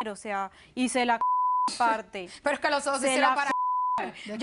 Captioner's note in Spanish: Bip